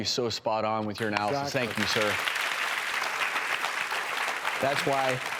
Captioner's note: applause